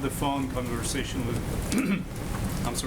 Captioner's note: clears throat